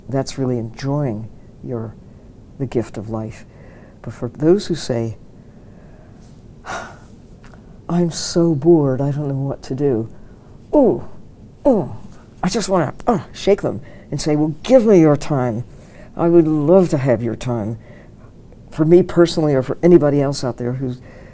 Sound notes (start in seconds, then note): 6.5 exhales; 10.7 grunting